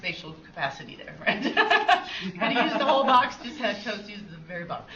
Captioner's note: laughs